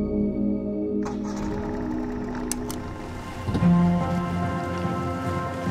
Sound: boat engine roaring

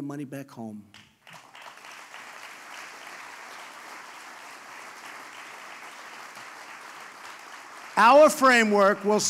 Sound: applause

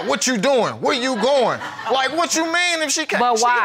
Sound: audience laughs

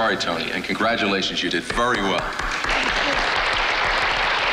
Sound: audience applauds

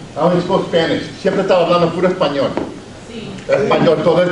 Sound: speaks Spanish

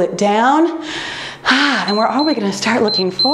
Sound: timer beeps

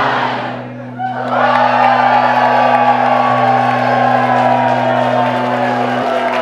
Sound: cheering; clapping

